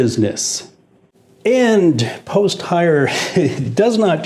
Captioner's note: chuckles